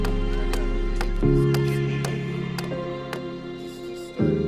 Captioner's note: tool knocking